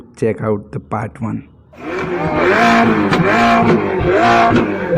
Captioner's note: roar of ferrari portofino